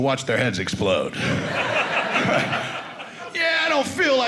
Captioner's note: audience laughing